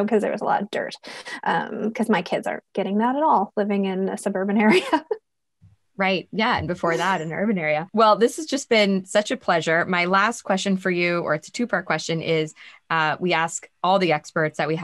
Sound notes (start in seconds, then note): 5.2 laughing